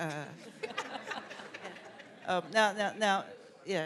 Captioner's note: laughter